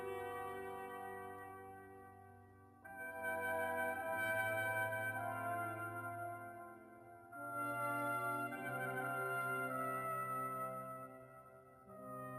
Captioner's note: speaking French